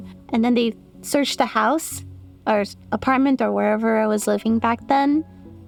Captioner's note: none